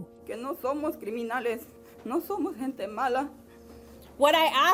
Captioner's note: speaking in non-English